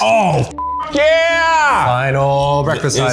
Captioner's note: beep